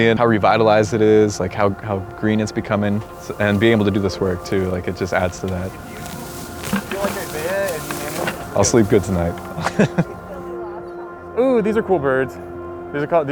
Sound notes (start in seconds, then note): 8.0 laughs